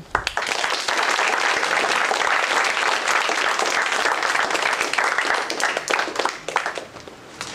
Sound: applause

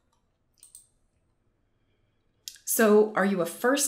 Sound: mouse clicking

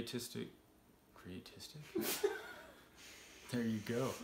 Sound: laughs

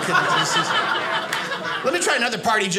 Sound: audience laughing

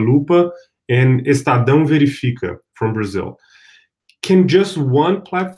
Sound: speaking portuguese

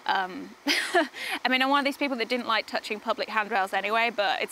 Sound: laughs

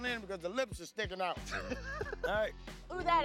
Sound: laughs

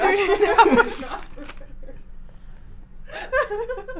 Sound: all laughing

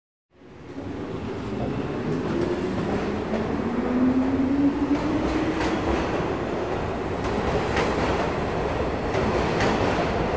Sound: train speeding

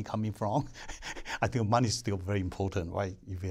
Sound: laughter

